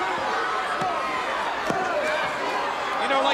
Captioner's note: countdown thudding